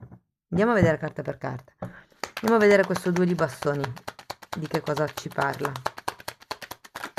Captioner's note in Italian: Applauso